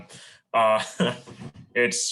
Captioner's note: laughs